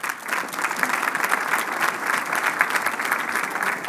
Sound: applauding

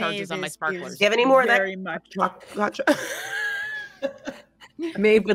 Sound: audio glitches

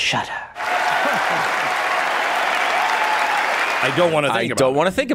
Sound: audience clapping

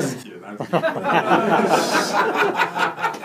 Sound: laughter

